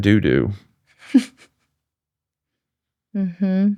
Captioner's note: laughing